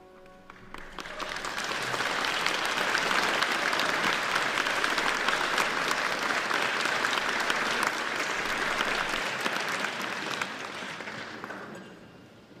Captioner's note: applause